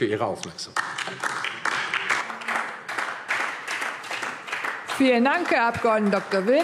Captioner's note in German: Beifall DIE LINKE und vereinzelt SPD